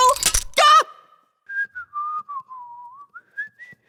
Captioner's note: whistles